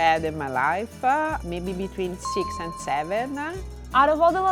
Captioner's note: ding